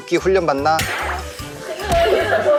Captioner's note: cracking up